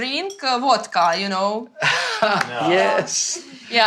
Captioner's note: laughs